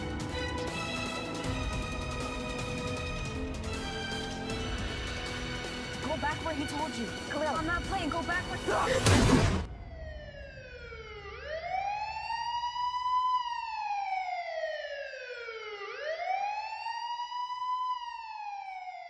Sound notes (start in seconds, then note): 8.9 gunshot; 9.6 police sirens